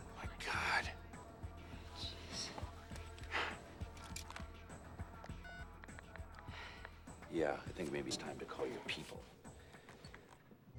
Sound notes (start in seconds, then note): 4.0 dialing cell phone